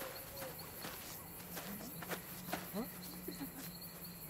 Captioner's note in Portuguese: Conversa Indistinta